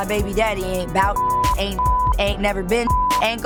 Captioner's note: beep